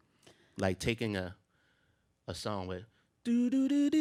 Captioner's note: hums a note